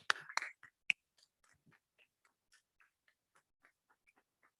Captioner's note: audience clapping